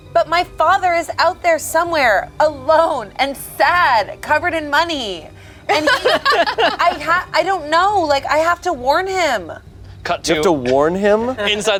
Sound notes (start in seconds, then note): 5.6 group laughs